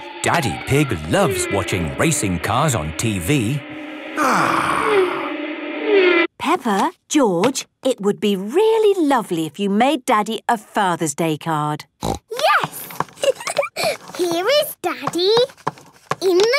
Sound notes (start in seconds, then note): 4.1 contented sigh; 13.2 giggling